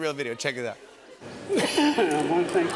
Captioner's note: coughing